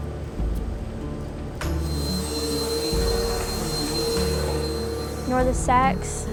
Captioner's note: vacuum